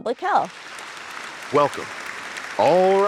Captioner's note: audience applauding